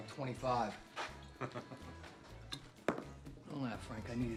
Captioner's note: laughs